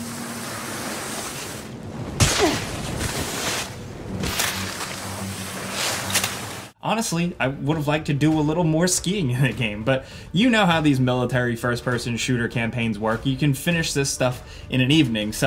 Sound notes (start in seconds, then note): 2.1 character grunts; 2.8 skis sliding